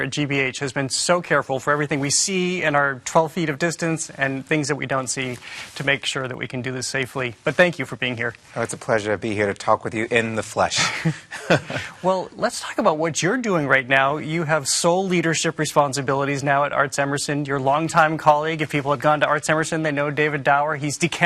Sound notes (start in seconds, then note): 10.7 chuckling